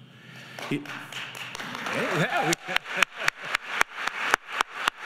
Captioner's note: audience applauds